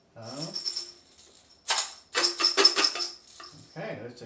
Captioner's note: beans shaking in jar sound